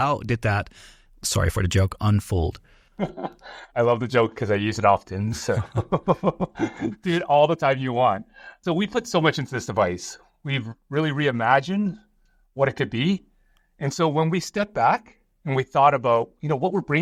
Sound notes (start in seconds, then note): 2.9 laughter; 5.4 laughs